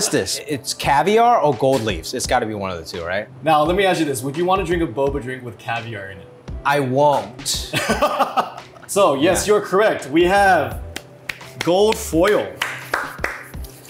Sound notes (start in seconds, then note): 7.7 laughter; 11.2 clapping